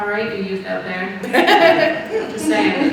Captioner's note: audience laughing